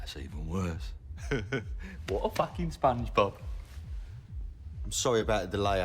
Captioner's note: chuckles